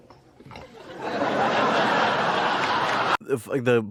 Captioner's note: laugh track